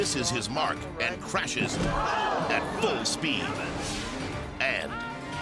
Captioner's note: crowd gasping